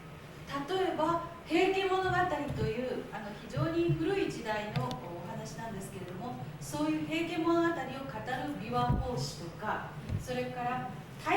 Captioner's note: speaking Japanes